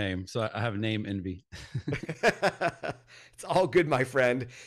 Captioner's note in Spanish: Risas